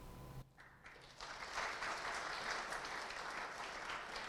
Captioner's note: audience applauding